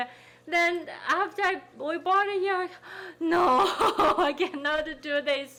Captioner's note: laughing